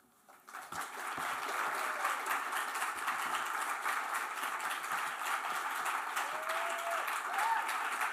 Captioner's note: applause